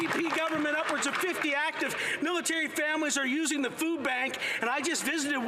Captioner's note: some Applause